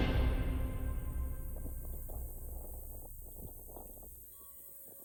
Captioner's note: wind rustling; crickets chirping